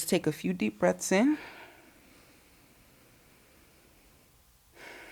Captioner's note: heavy breathing